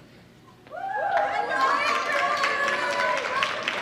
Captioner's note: audience cheers and applauds